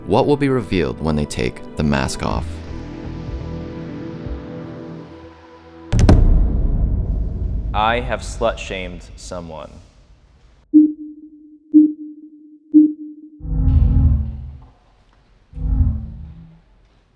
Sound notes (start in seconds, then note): 2.6 gentle brooding music; 5.9 audio thumping; 10.5 countdown chiming; 13.3 audio beeping